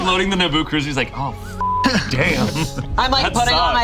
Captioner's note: beep